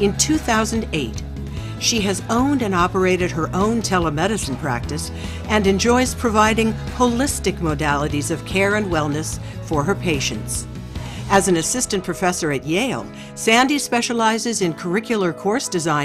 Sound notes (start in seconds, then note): none